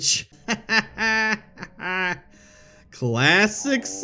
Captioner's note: laughs